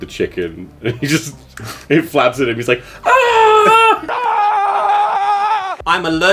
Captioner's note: screaming